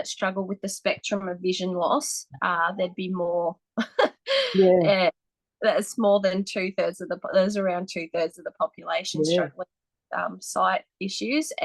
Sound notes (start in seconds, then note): 4.2 laughs